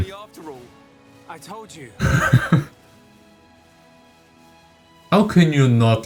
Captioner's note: laughter